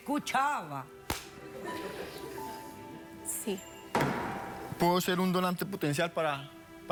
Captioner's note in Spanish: risas del público